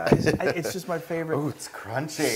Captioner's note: laugh